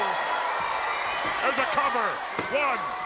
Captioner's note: crowd cheering